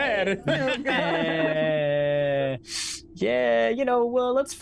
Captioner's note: everyone laughs